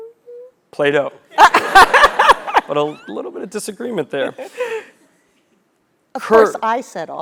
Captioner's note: laugh